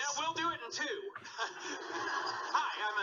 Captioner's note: audience laughing